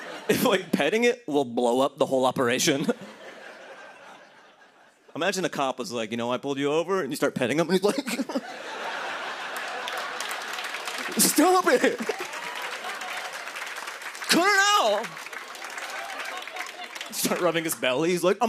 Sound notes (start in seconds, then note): 2.7 laughter; 7.8 laughter; 12.1 applause